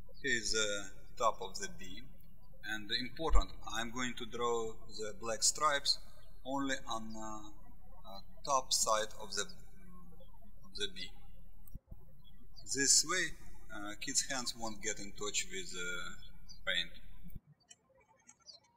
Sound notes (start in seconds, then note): 0.0 birds chirping; 11.1 birds chirping